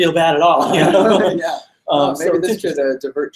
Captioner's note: laughs